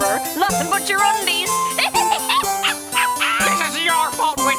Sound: witch cackles

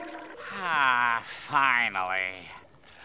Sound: sighing

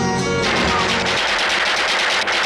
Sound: gunfire

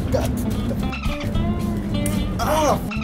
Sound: dolphin squeak

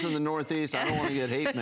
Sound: laughter

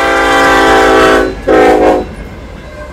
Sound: train horn

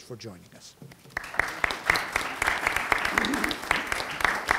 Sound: audience applauding

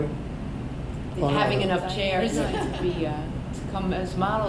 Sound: all laugh

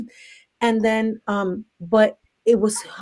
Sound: laughs

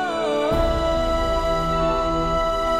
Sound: emotional vocalising

